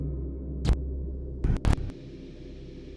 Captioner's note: static flipping; static humming